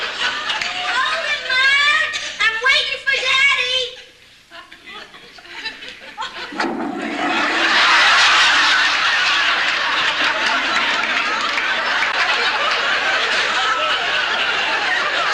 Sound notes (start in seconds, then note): 6.5 toilet flushes